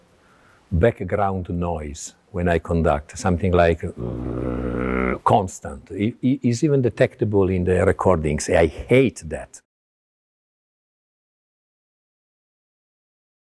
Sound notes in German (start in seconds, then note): 3.9 brummt